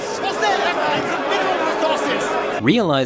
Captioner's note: crowd murmuring